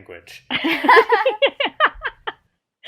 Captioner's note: laughter